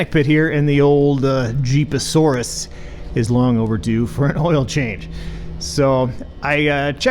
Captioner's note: chuckles